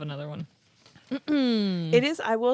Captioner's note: clears throat